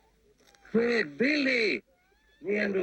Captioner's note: speaking native language